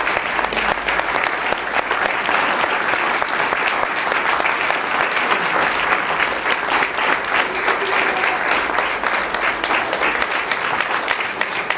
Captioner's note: applause